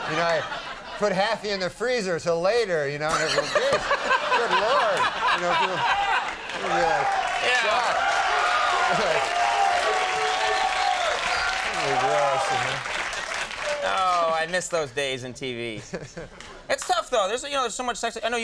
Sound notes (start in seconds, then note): 5.0 crowd cheers